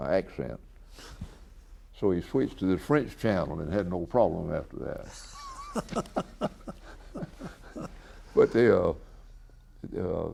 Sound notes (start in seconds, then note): 7.9 BOTH laugh